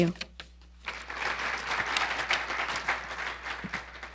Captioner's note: audience applauding